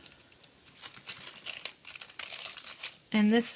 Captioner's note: plastic peeling